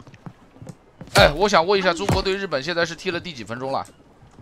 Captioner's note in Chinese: 歇斯底里